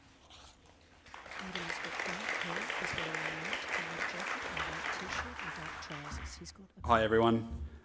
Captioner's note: applause